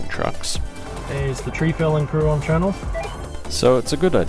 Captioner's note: Uniden CB roger beep